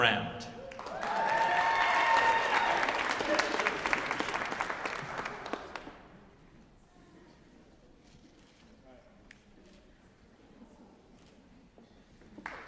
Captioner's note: cheering; applause